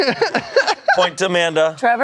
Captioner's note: laughs